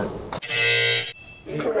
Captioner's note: incorrect passcode buzz